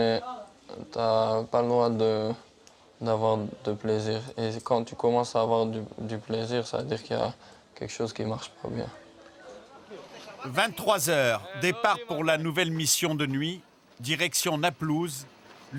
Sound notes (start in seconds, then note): 8.5 French spoken audio